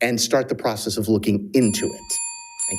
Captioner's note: bell ringing